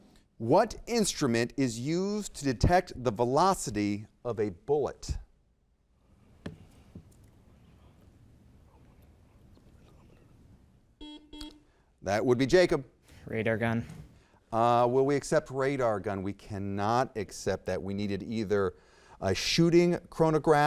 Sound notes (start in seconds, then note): 11.0 buzzer beeps